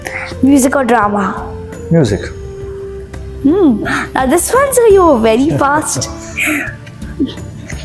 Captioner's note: laughs